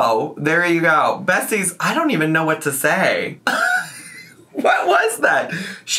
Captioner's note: laughs